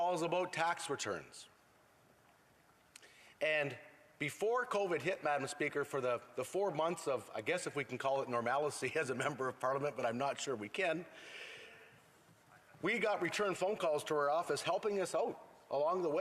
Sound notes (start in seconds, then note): none